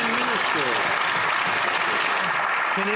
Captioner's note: some Applause